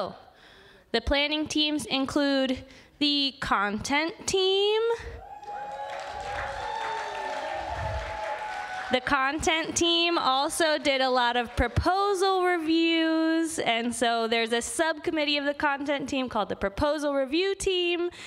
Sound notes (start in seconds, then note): 6.9 applause